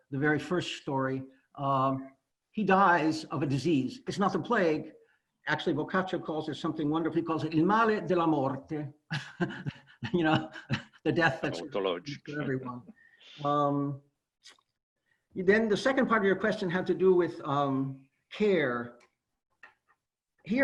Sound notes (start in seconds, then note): 8.4 italian; 9.1 laughs